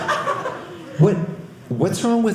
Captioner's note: audience laughing